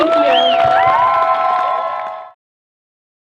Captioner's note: crowd cheering